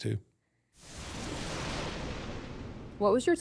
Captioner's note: intense swoosh